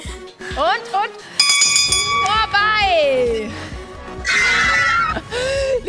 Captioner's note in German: Lautes Atmen